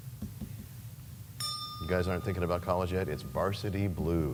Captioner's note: bell rings, time expires